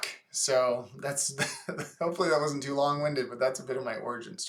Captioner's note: laughs